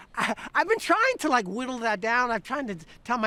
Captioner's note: laughs